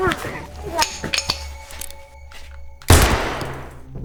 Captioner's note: both grunting; gunshot blasts